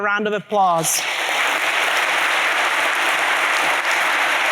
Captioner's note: applause